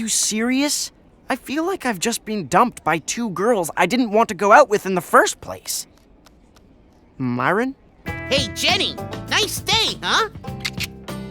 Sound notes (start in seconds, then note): 10.6 clicks tongue